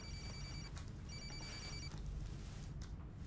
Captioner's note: cellphone rings